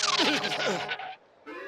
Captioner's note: skidding